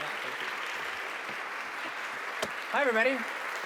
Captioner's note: applause